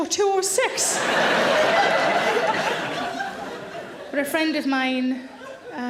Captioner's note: audience laughs